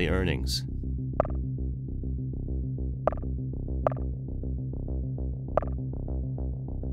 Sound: suspenseful music; messages clicking

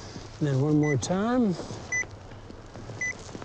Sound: beeps

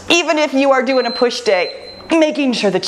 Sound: timer beeps

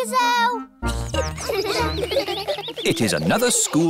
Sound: children giggling

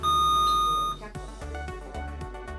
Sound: sound of a buzzer

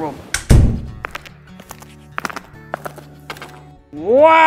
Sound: door close, walking noises

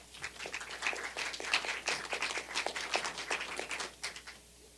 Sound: applause

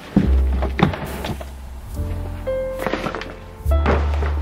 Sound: fabric crinkles

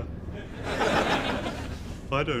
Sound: audience laughs

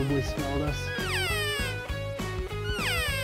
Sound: cow Call

